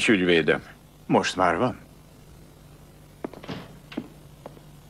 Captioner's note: banging